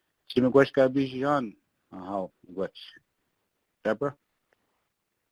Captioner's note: speaks in foreign languages